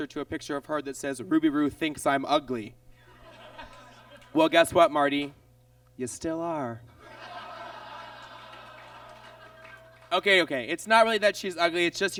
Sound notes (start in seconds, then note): 7.0 audience groans and laughs